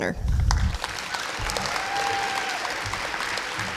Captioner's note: clapping